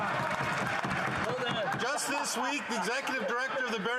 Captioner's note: yelling; cheering